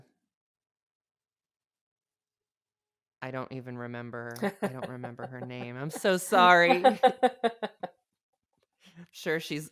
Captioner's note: laughs